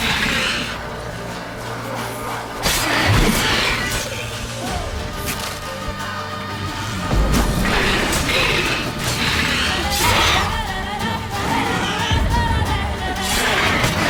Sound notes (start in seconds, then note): 6.8 Aard booms; 12.4 ground rumbles